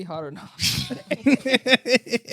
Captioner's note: laughing